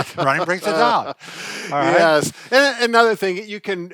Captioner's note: laughs